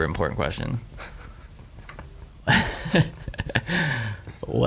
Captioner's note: laughing